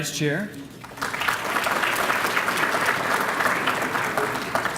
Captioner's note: applause